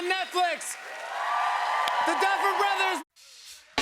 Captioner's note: cheers and applause